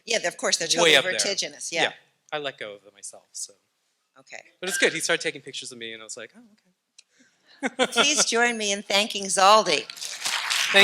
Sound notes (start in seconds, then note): 4.6 laughing; 7.6 laughing